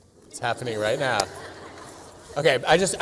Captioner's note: laughter